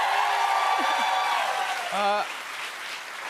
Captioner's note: cheers and applause